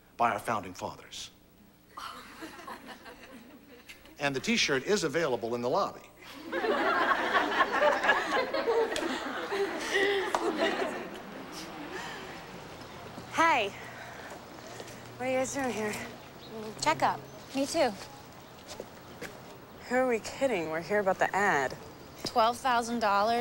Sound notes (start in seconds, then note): 7.9 laughing